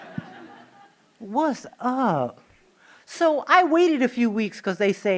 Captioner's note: laughing